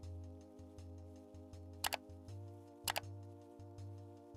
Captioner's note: mouse clicking